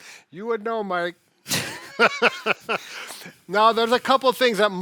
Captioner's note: laughs